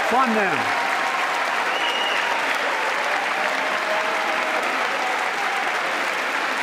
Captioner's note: applause